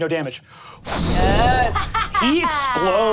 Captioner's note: imitates air whooshing